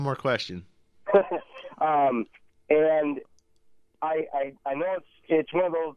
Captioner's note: laughs